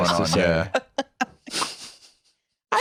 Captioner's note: laughs